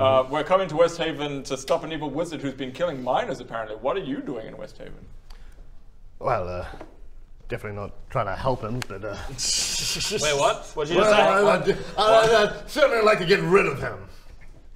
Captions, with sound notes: we're coming to Westhaven to stop an evil wizard who's been killing miners apparently What are you doing in Westhaven? Well er definitely not trying to help him but er *suspicious laughter* Wait. What? What did you just say? What? Errr..errrr...I'd certainly like to get RID of him